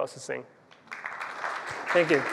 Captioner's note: applause